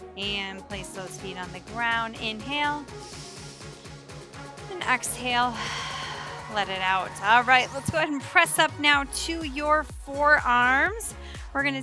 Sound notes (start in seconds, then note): 5.1 exhales heavily; 5.1 inhales deeply